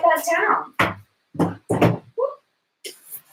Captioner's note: board thuds